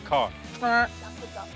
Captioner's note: honking noise